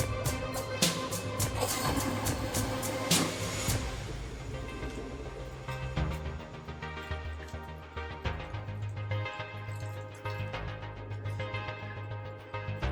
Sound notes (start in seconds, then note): 0.1 toilet flushes; 4.1 upbeat electronic music continues